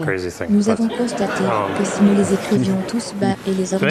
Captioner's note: audience laughs